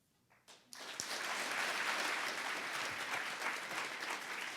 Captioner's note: audience applauding